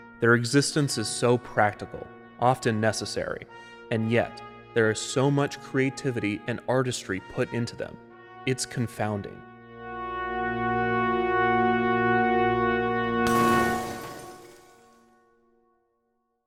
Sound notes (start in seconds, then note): 10.1 stirring music; 13.2 televisions shatter